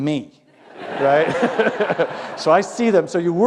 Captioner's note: laughter